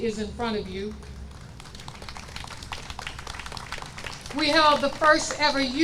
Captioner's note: audience applauds